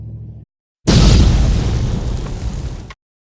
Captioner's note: boom